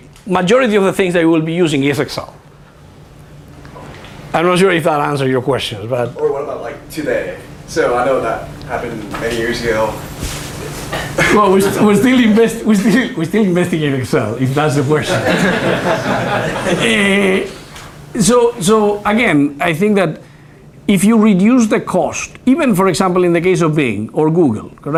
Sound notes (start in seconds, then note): 15.0 laughter